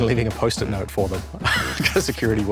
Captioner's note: laughs